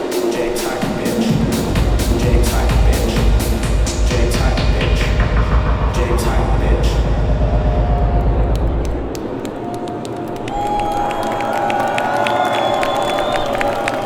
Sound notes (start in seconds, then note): 9.8 audience cheering